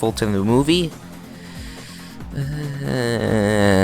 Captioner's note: inhale